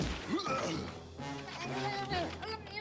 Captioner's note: grunts